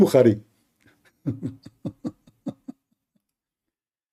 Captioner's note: Ketawa